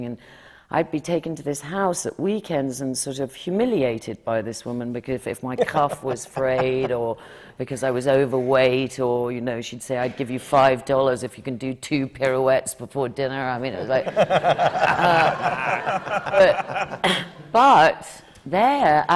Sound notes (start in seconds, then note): 13.8 laughter